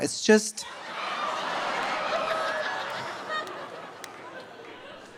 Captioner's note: audience laughing